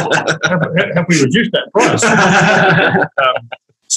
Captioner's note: all laugh